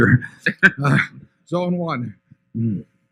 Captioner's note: laughter